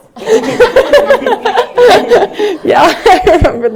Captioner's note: laughter